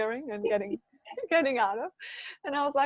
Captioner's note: laughing